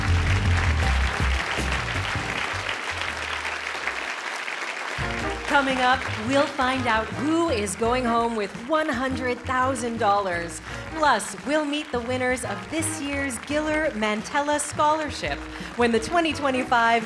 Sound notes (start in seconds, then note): 2.2 applause